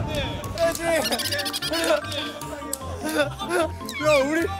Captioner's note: giggling